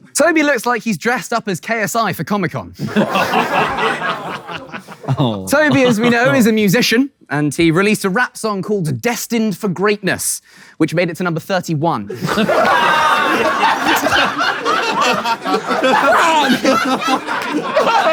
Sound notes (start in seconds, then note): 2.8 people in room laughing; 12.1 people in room laughing; 14.6 KSI laughing loudly